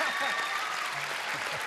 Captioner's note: laughter